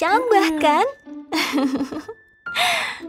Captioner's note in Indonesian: tertawa